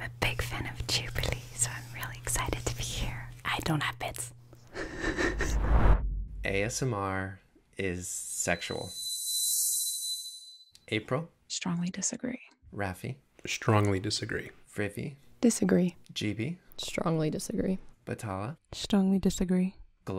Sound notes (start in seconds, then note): 5.4 frame whooshing; 8.9 slow music